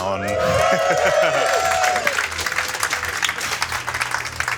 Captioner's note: crowd cheering